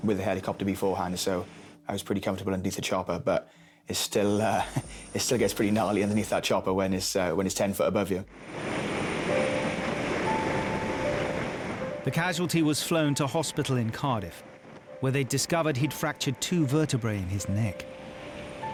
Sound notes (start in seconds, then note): 9.2 helicopter droning